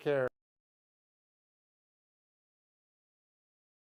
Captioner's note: silence